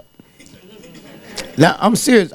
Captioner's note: audience laughing